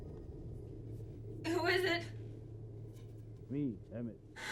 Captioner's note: voice breaking